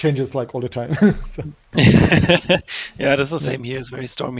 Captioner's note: all laughing